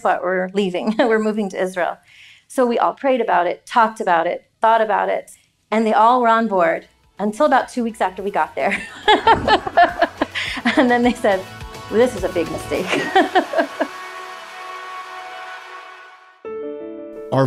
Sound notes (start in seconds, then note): 8.7 laughing; 13.1 gentle music; 13.1 upbeat music